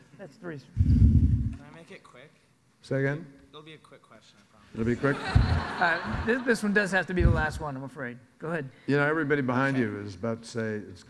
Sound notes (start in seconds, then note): 4.8 audience laughs